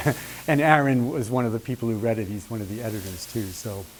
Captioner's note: laughs